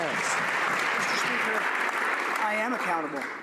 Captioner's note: some Applause